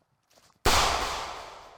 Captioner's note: gunshot